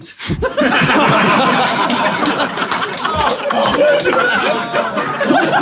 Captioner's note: people in room laughing